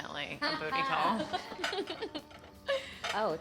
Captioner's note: Margot laughing